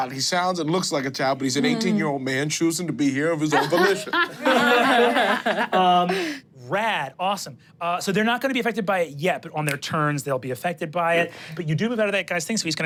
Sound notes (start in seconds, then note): 3.5 everyone laughs